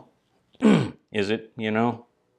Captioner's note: throat clearing noise